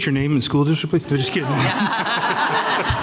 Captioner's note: laughing